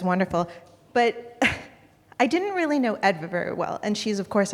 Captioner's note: chuckles